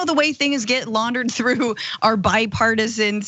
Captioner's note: laugh